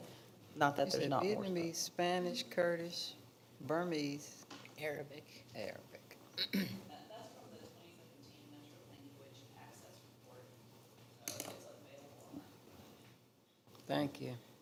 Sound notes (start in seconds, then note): 7.5 quietly